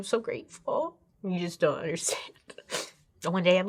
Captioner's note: sniffles